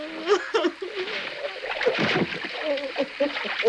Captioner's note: wife crying